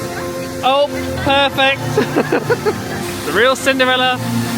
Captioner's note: laughing